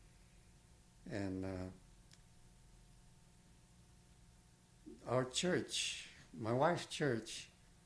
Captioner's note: pauses for 3 seconds